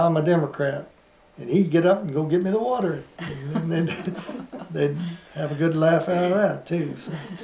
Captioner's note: laughter